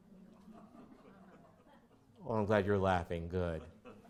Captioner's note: audience laughs